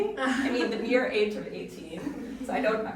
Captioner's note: audience chuckling